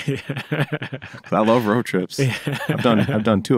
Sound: laughter

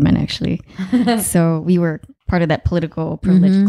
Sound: laughing

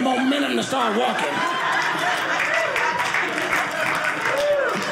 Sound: audience laughing

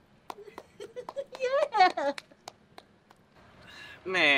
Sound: giggles

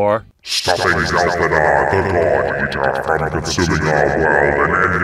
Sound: deep echoed voice

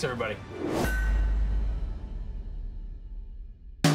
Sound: woosh

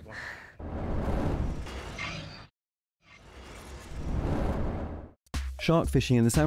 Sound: mechanical sound

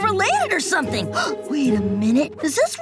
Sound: gasping

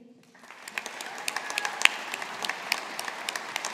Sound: audience applauding

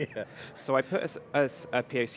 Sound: laughing

